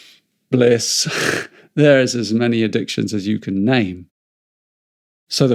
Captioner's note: chuckles